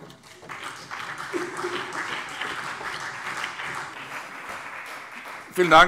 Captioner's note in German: Beifall CDU und BÜNDNIS 90/DIE GRÜNEN